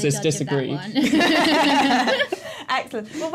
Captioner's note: laughter